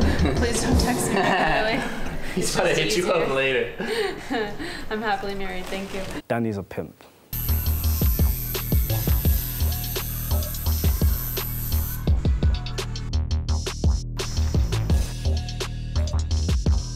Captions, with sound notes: - He's gonna hit you up later. - Danny is a pimp. (needle drills)